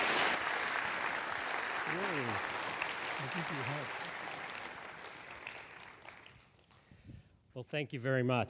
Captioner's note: applause